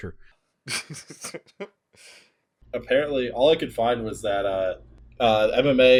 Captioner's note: nervous laughter